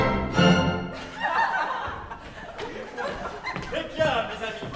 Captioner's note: laughs